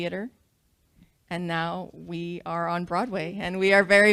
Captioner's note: none